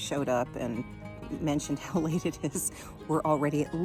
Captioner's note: chuckles